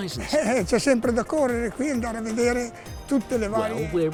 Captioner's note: speaks Italian